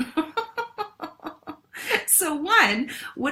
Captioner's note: laughs